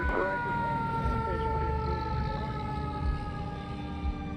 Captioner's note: siren wailing